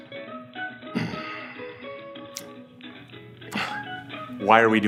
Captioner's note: throat clearing